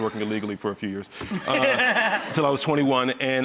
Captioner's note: laughs